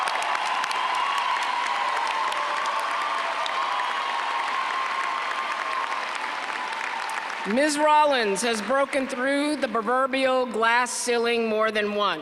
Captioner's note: applause